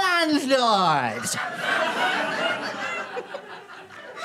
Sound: audience laughter

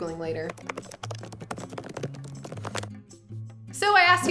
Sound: keyboard clacking

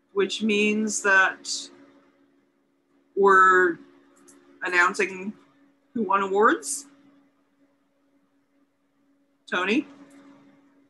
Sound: pause

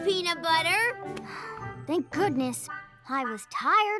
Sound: exhales

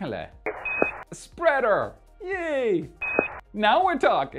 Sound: speaking gibberish; futuristic tone beeps

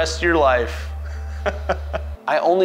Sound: laughs

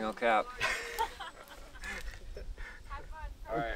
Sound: laughter

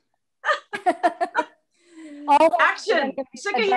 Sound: laughs

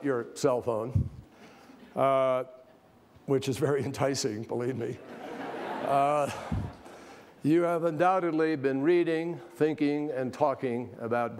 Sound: laughter

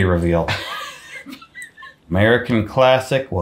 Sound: laughs

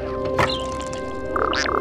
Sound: door shuts; scared chirp

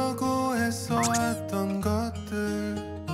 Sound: the door opens

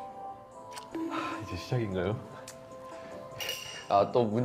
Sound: sigh

